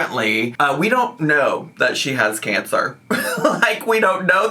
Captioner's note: laughing